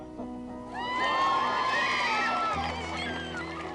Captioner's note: crowd cheers; engaging dramatic music